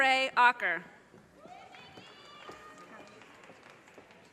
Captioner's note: audience cheers and applause